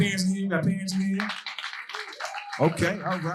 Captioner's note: audience cheering and applauding